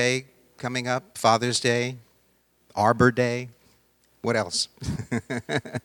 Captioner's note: laughing